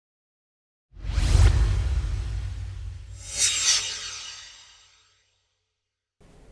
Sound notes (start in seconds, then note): 1.0 swoosh